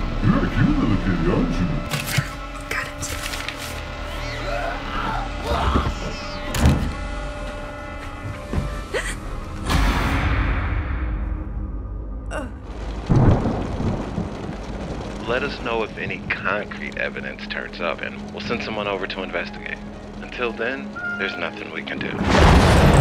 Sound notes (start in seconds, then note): 4.9 cat screeching; 4.9 pizza man grunting; 6.5 door slamming; 9.6 dramatic music; 9.6 gasps; 14.3 thunder cracking